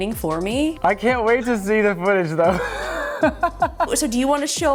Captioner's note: laughs